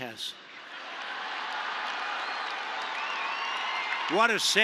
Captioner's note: laughter and applause